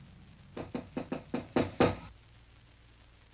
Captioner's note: knocking on door